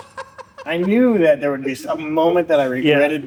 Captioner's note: laughter